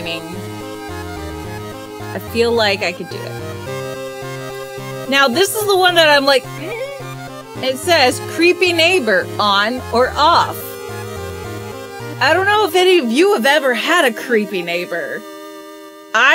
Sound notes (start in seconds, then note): 7.0 makes a strained sound